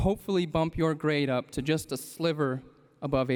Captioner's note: none